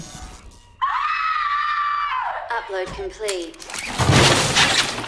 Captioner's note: both screaming